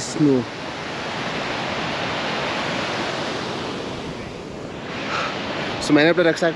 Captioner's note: water sounds